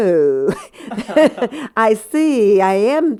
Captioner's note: laughter